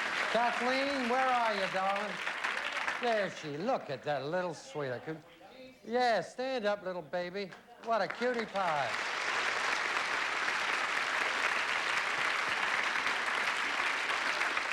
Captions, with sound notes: KATHLEEN, WHERE ARE YOU, DARLING? THERE SHE--LOOK AT THAT LITTLE SWEETIE. YES, STAND UP, LITTLE BABY. WHAT A CUTIE PIE. [AUDIENCE APPLAUDING]